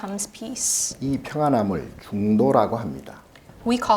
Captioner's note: speaking Korean